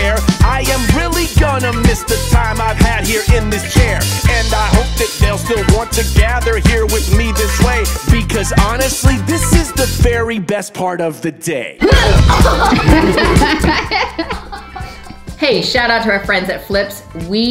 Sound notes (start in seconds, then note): 11.8 laughter; 12.1 grunts